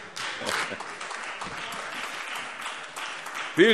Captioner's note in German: Beifall Freie Demokraten und vereinzelt AfD